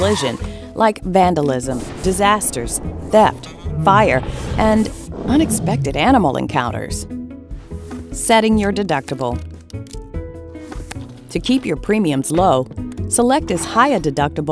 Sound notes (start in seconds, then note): 0.0 tires squeal; 1.5 lightning crashes; 6.3 dragon roars